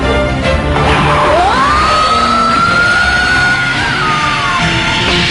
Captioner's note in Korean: 강태양의 기합 소리